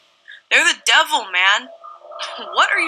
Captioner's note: quietly